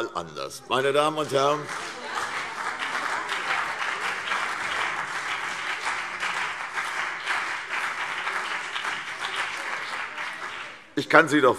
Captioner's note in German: Beifall CDU und BÜNDNIS 90/DIE GRÜNEN